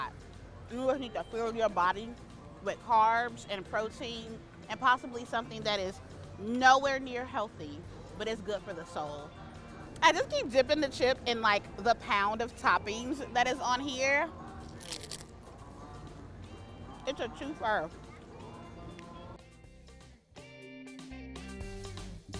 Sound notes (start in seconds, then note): 14.6 chips crunch; 20.4 upbeat music